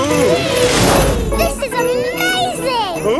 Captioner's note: all exclaiming